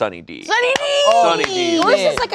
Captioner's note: claps